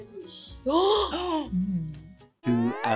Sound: gasps

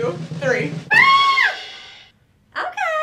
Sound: screaming

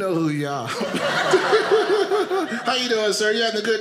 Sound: audience laughing

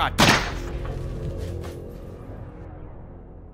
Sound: gunshot

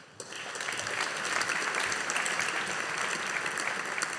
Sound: audience applauding

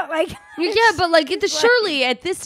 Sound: laughs

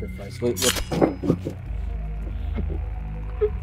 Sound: blade clanging; Ezra choking

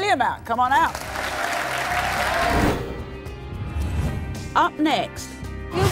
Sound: audience applauding

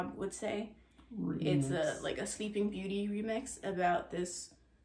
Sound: DJ voice

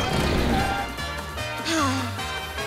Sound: sighing

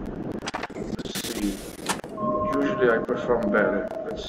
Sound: sound of submarine

